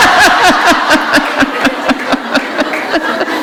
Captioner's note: laughter